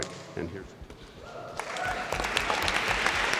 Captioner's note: applause